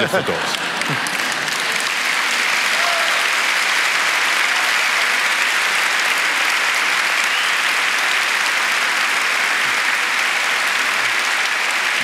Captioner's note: applause